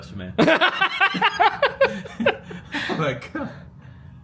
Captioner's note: laughs